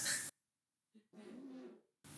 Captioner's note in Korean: 음소거